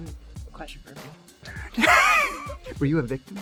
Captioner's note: laughing